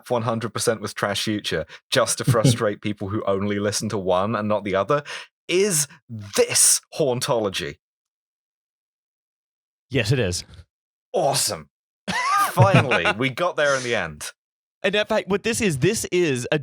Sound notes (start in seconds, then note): 7.1 pregnant pause; 12.0 laughter